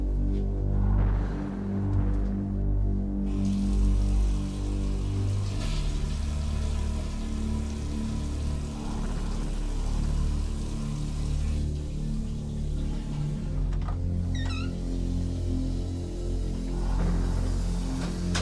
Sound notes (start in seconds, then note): 3.5 running water; 5.5 flushing toilet; 14.2 opening door